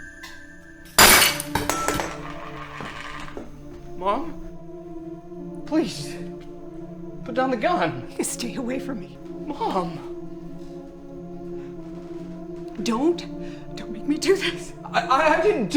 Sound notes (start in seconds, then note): 0.9 vase clatters